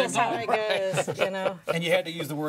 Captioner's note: all laughing